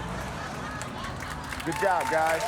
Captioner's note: studio audience laughs